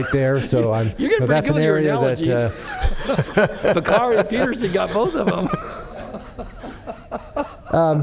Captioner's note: laughter